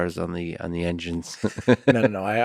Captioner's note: Lex laughs